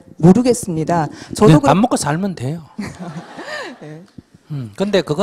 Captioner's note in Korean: 질문자와 청중 웃음